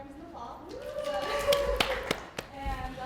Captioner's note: crowd cheering